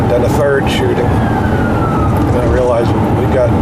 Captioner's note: sirens